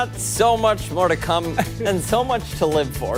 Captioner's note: laughter